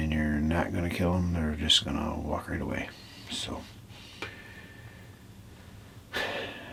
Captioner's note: sighs